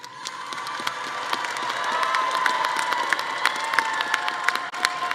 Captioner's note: audience cheering and clapping